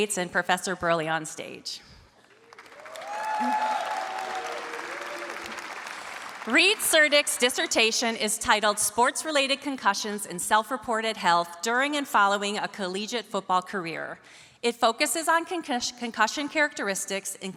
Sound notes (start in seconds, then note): 2.3 audience cheers and applauds